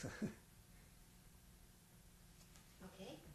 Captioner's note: laughs